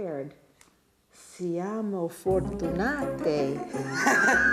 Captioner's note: speaking Italian